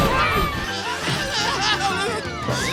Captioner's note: screaming